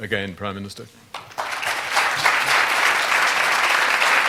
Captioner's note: applause